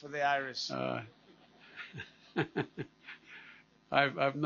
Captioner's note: laughter